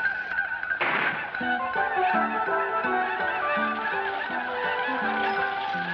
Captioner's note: Apaches ululating; gunfire banging